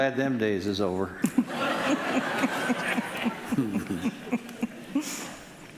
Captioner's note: audience laughing